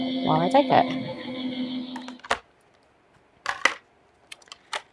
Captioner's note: machine operating